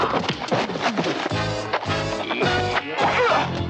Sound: punches, hits

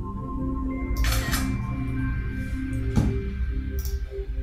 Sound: camera clicking

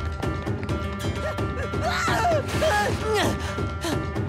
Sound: screaming and panting

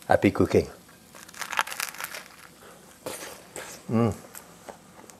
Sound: teeth crunching

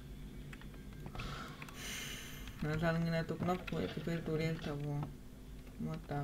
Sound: sighs

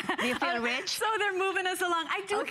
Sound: laughter

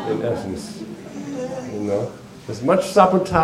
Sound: laughter

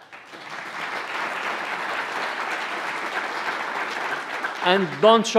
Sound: applause

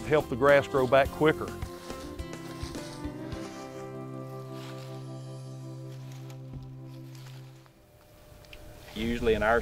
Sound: walking

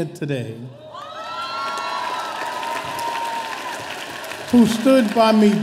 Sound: audience applauding

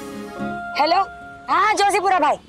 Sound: mobile phone ringing

